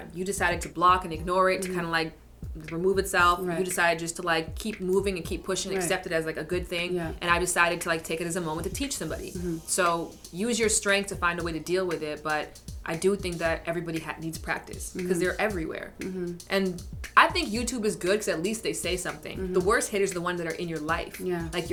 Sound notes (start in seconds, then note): none